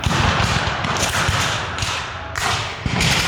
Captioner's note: guns fire